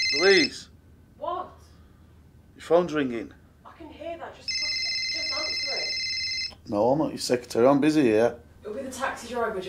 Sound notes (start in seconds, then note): 4.4 phone ringing